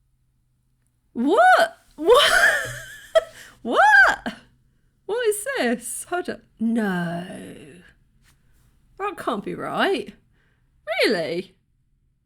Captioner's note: laughing